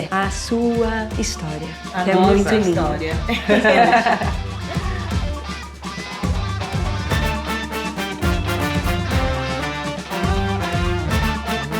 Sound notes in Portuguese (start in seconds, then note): 3.2 risos